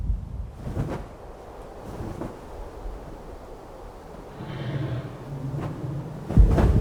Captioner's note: wind whirls; feathers flap